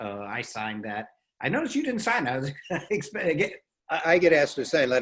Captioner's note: laughs